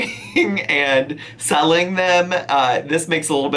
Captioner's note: laughing